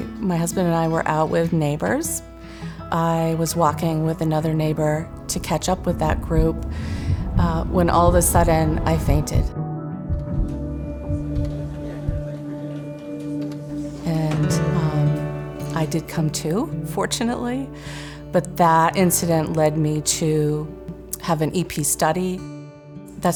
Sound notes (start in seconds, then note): 9.9 heart thumping